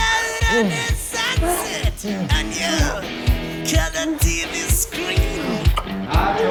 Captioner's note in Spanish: Gemidos